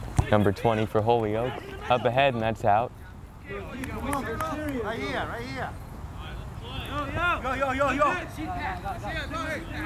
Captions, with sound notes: number 20 for Holyoke. Up ahead and that's out. (players talking and yelling)